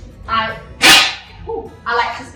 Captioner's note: loud clang